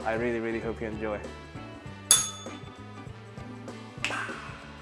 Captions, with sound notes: I really, really hope you enjoy. [bell rings] Ah!